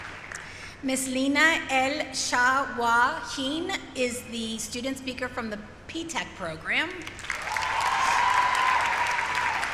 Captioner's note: applause; cheering